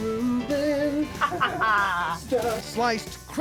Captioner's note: laughter